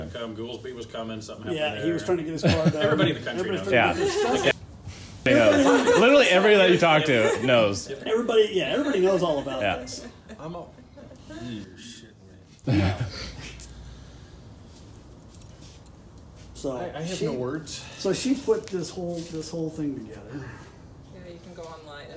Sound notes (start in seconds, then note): 12.6 laughter